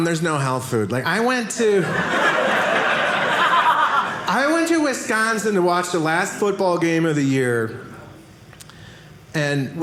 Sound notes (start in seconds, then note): 1.8 audience laughing